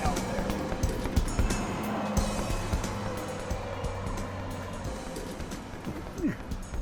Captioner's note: struggling